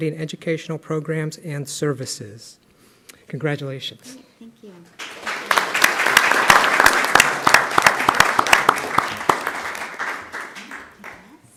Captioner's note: clapping